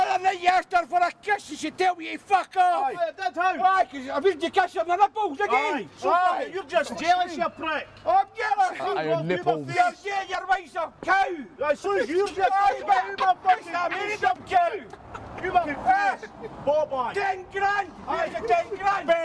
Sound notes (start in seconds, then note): 12.9 arguing; 14.8 laugh